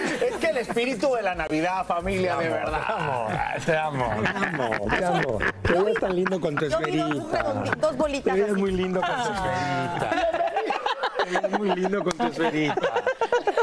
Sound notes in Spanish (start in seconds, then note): 4.0 risas